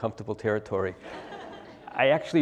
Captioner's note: laugh